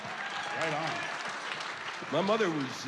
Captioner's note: applause